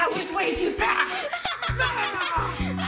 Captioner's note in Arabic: يضحك